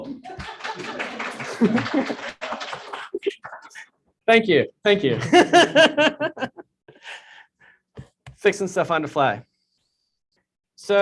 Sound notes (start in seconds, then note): 0.0 audience clapping; 5.1 laughter